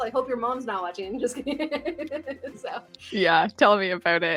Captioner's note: laughs